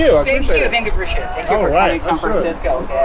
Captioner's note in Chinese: 交谈